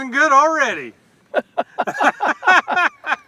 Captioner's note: laughter